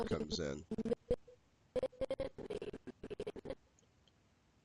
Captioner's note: audio skipping